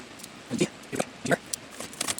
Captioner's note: speaking in foreign language